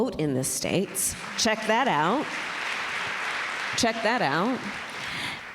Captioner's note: applause